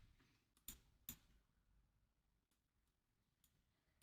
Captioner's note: mouse clicking